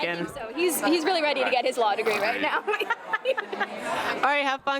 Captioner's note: laughter